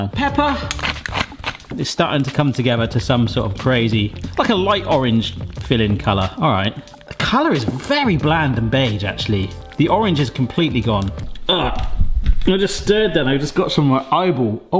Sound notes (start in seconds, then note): 1.0 pepper grinder grinding